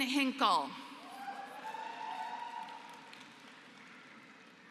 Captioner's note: applause